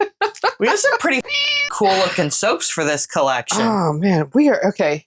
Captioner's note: meow